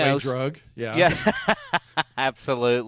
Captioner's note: laughs